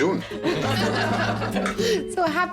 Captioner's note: laughter